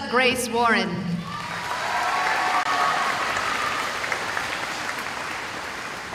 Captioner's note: cheering